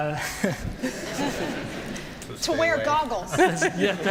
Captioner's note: laughter